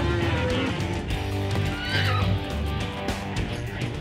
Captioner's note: cows moo; horse neighs